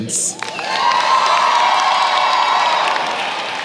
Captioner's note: applause